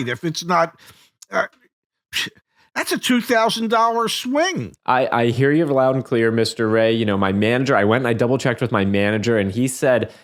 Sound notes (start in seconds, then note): none